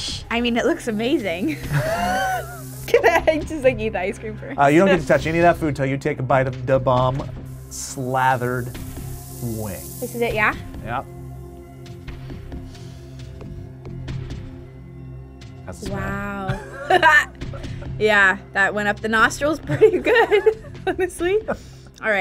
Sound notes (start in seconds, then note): 1.5 laughs; 11.8 tense music; 16.4 laughs